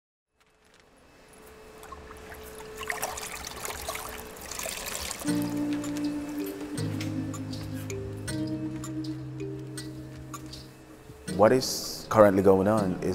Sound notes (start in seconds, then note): 1.8 water swishing and dripping; 5.2 gentle music